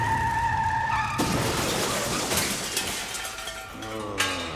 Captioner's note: engine revving; crashing; Toulouse groaning